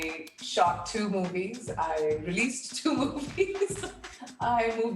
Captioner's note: laughing